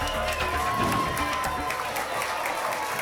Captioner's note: whoosh; applause and cheering cont